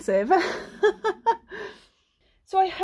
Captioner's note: laughing